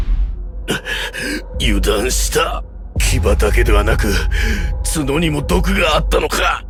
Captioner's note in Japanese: 息をのむ音